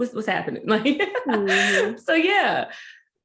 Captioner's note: laughs